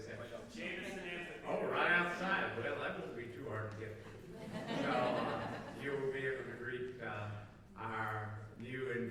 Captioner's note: laughter